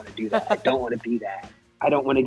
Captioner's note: laughs